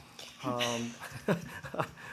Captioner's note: laughter